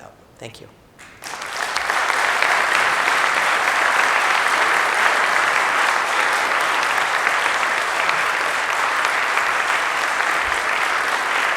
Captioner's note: applause